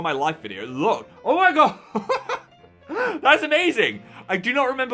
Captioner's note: laughs